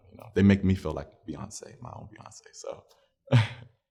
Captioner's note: laughs